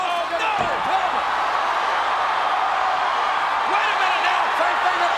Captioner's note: audience cheering